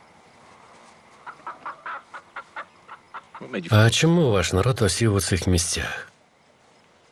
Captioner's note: chickens clucking